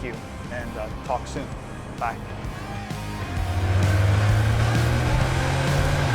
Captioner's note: upbeat music; engine revving